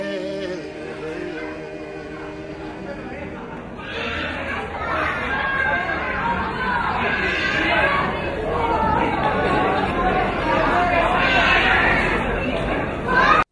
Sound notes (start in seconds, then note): 1.1 people chattering